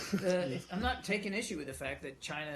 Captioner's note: laughter